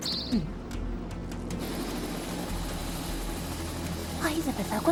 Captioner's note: sighs